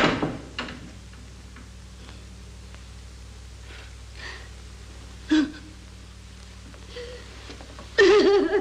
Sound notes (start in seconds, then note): 5.2 sighs; 5.2 sobs; 8.0 weeps very intensely